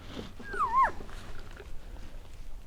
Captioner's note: caller cow calling